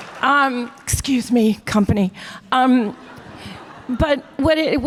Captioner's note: audience laughter